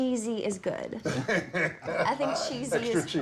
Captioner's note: laughing